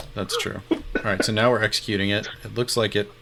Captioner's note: laughing